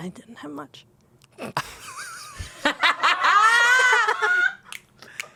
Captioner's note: everyone laughs